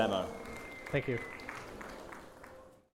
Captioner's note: applause